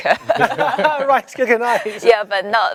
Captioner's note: all laughing